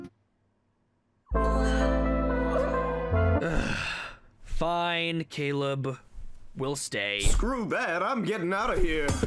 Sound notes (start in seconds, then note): 1.2 Caleb whimpers; 3.4 groan